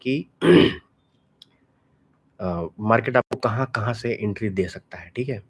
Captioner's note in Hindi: गला साफ़ करने की आवाज़